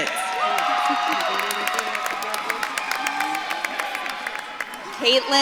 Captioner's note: audience claps and cheers